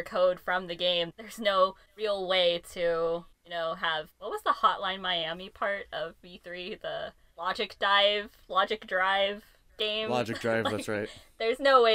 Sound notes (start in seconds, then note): 10.1 laughs